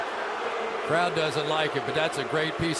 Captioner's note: booing